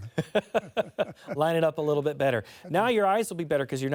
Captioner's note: laughter